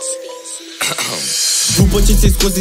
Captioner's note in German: husten